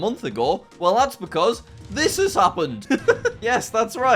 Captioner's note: laughs